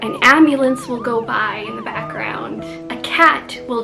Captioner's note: siren noise